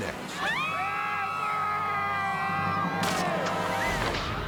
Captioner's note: spectators screaming